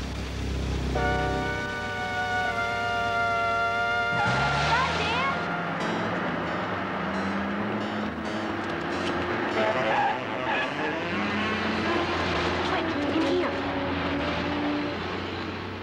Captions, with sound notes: (tires squealing) Run, Dan! (tense music continues) (tires squealing) Quick, in here!